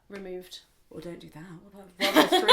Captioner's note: laughs